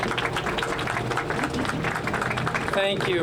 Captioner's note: applause